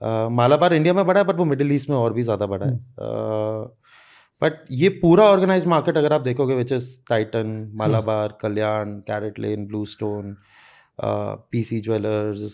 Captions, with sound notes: See you won't see a single Jeweller in your city whos not a rich person. Everybody's revenue is so high.(Speaks in Hindi) Titan is the biggest and then comes Malabar. Malabar is big in India but it's more huge in the Middle east.